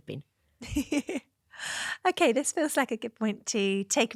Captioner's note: laughter